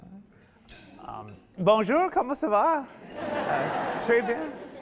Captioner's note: speaking French; audience laughing